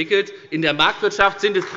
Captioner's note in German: Beifall bei der FDP